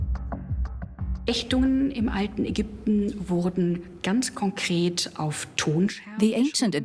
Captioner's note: speaks German